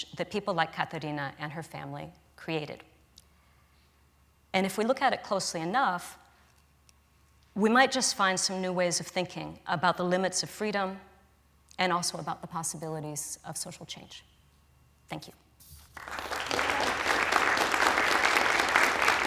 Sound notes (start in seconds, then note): 15.9 applause